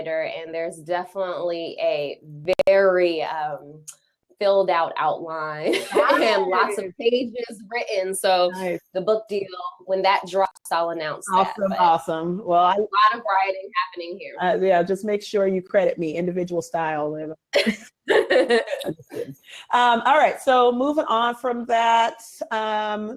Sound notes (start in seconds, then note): 17.5 both laugh